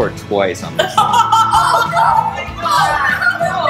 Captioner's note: laughter